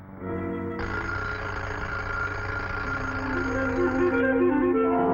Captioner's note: alarm clock ringing